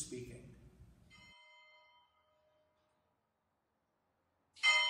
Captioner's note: ringing